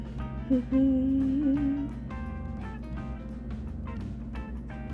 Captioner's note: humming